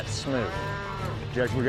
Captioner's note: cattle mooing